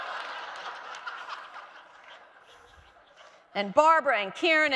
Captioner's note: audience laughing